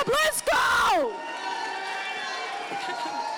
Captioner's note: audience applauding